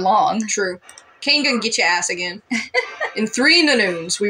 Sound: laugh

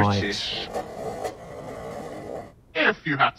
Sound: finger scratching

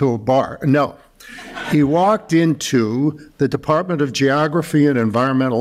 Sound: laughter

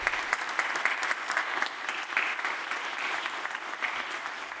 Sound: applause

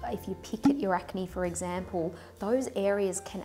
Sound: popping

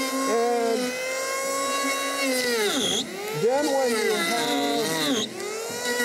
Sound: tool buzzing

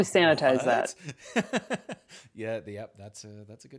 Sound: laughs

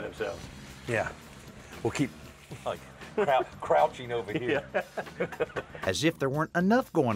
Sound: both chuckle

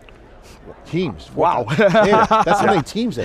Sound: laughs

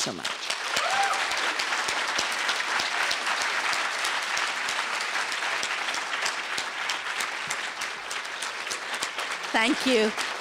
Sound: applause

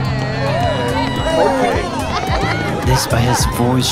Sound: party chatter

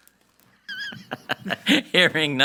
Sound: laughing

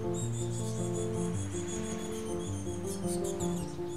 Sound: gentle piano music; birds cheep

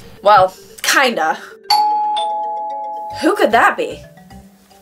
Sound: doorbell

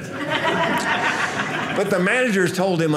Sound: audience laughing

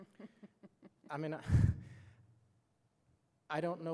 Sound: chuckles

